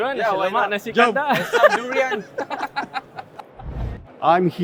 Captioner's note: group laughing